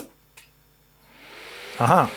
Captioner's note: buzzing